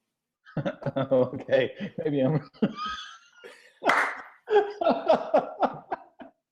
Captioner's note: laughs